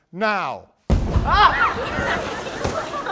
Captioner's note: explosion